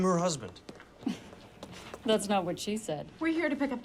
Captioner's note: scoffs